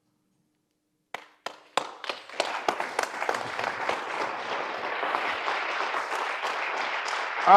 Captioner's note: applause from audience